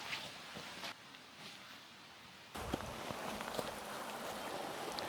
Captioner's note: water splashing